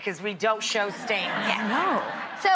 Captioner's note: audience laughing